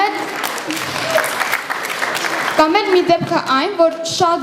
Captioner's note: applause